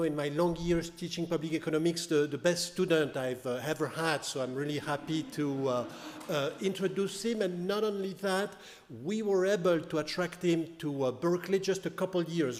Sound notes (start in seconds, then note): 3.9 audience laughing